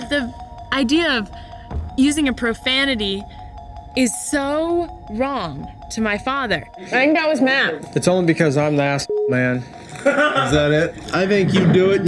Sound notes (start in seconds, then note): 9.0 beep; 9.9 man laughing